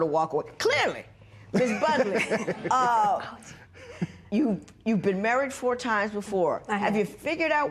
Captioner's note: laughter